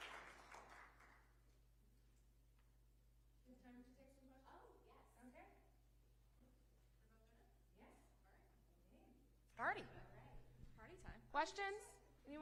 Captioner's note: applause